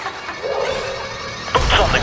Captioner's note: player laughs